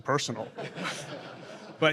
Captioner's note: laughter